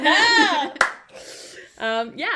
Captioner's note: laughter